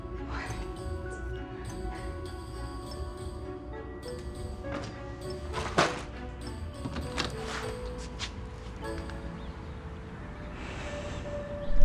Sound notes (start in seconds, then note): 6.4 doors open; 9.7 ominous music